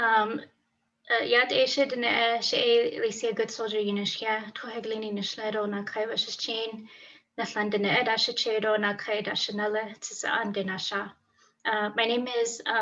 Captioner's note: non-english speech